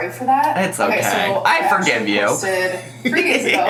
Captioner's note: laughs